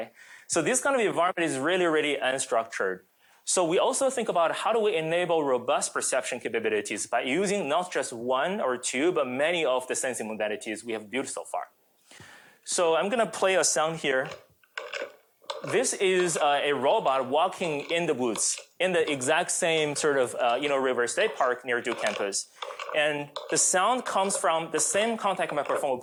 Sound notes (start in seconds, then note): 14.3 metallic grinding